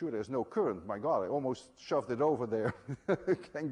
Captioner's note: chuckles